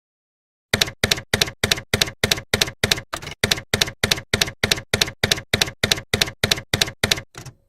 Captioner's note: typewriter keys clacking